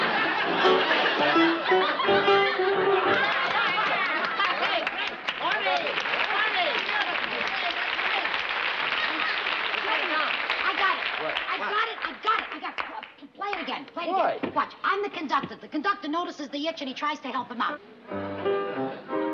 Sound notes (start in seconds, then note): 4.0 applause; 18.1 playing piano